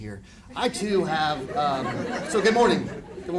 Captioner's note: audience laughing